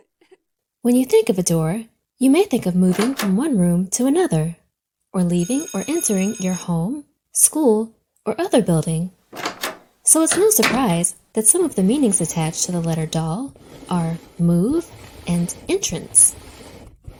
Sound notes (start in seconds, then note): 9.3 door closes